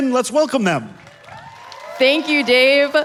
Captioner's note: audience applauding